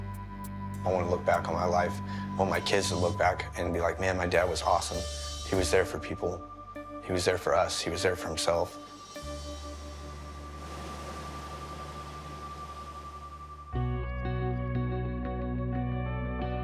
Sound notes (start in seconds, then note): 10.4 waves lapping; 13.0 gentle music